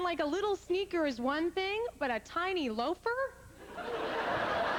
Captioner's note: roaring laughter